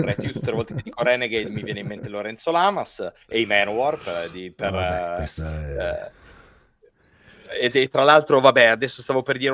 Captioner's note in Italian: risate